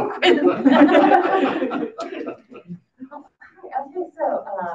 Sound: audience laughing

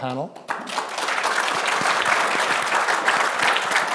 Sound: applause

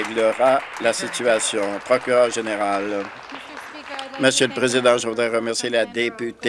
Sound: applause

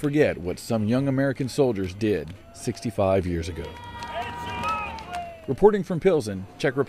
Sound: cheering and applause

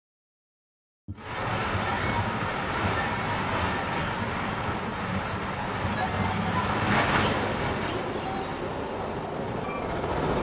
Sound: sound of radio communication

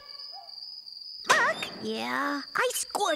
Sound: whispering

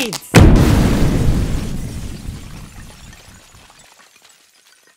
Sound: explosion

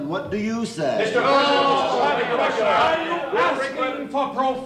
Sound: confused shouting

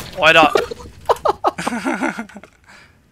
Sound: laugh

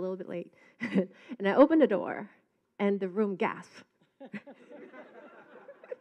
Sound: laughing

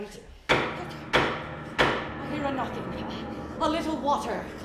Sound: knocking

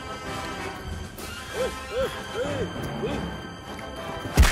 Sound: angry German noises

